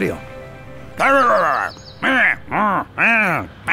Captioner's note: grunting